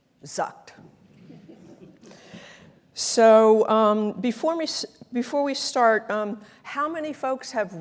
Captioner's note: laugh